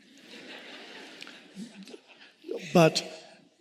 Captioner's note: audience laughing